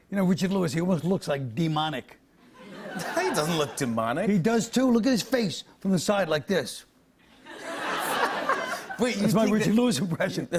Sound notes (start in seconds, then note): 2.6 laughter; 7.3 light laughter